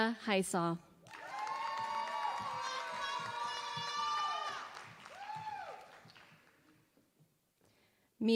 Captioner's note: applause